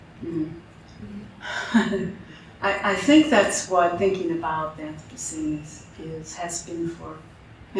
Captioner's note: chuckles